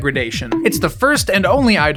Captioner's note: "BONK" noise